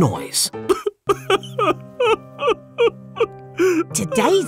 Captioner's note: crying